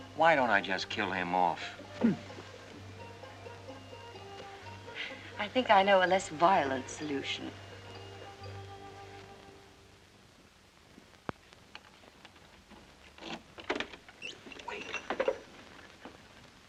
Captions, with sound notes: - Why don't I just kill him off? - I think I know a less violent solution. (door unlocks) - Wait...